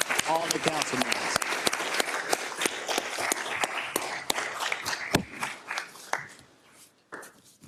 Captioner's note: applause